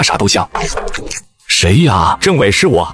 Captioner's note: knocking on the door